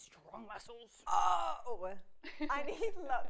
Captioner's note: laughs